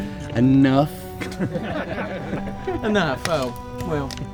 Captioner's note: chuckling